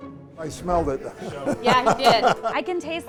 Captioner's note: laughs